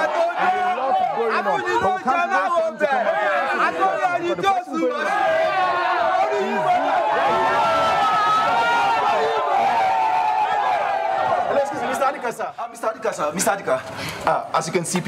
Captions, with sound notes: (crowd chanting in foreign language) (crowd cheering) - Mr. Adika, sir, Mr. Adika, as you can see,